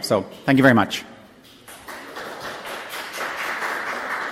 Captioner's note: applause